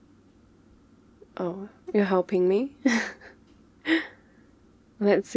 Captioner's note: laughs